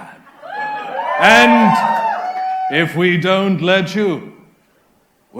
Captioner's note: audience cheers